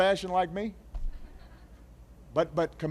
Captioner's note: laughter